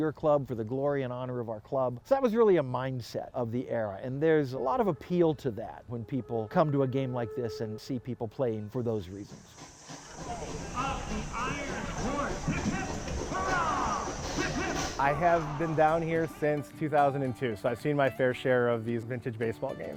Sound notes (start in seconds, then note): 9.2 train steam hissing; 9.9 people chattering